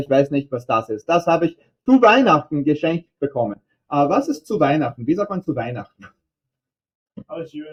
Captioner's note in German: auf Englisch